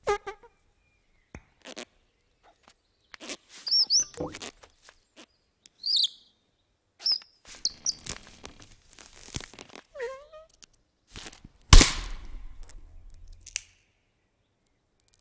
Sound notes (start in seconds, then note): 0.1 caterpillar farting; 3.8 bird chirping; 10.0 bird whimpers; 11.1 snapping